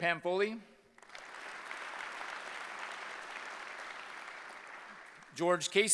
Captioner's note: applause